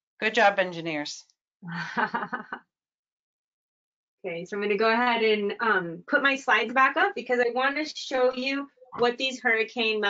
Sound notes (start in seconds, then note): 1.7 laughs